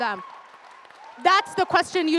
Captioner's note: audience cheers and applauds